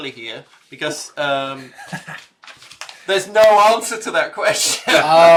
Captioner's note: laughs